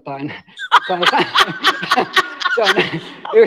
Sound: raucous laughter

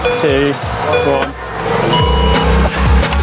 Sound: beep; intense music

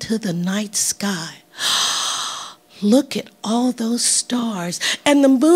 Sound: gasping

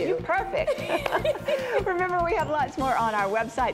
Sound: laughter

